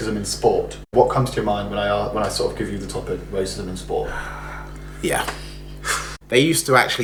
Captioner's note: sighs - Yeah